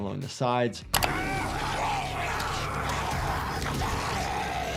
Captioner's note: zombie snarling